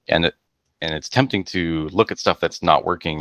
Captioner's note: none